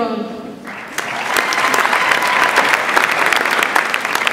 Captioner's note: audience applauds